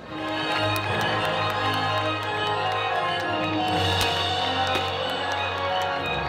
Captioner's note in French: applaudissements